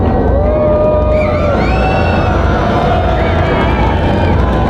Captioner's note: crowd cheering